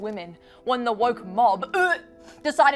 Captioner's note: dry retches